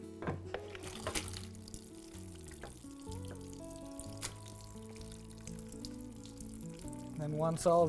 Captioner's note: sound of running water